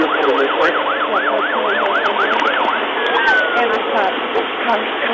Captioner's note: sirens